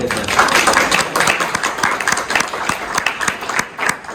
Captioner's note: applause